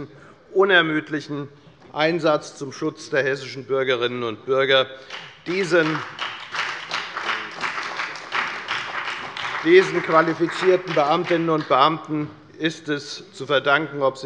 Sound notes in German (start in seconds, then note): 5.0 Beifall bei der FDP sowie bei Abgeordneten der CDU und der SPD